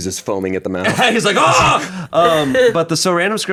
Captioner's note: yells